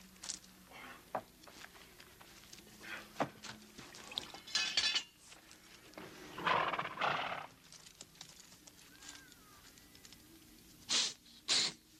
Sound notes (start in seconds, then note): 5.5 Qahhar sniffing; 6.3 horse snorting